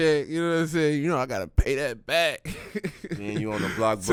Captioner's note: laughs